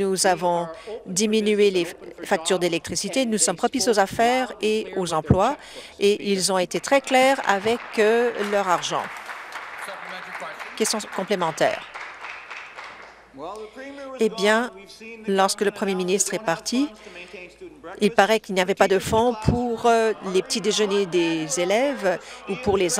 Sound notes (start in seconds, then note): 11.7 applause